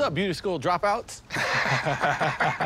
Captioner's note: laughter